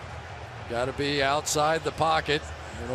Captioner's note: crowd cheering